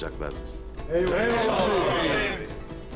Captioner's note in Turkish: Hep bir ağızdan